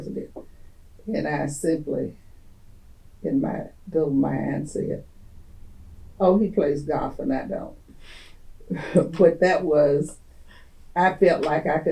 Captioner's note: laughter